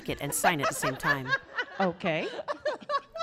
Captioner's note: laughing